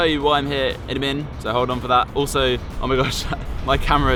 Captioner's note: laughs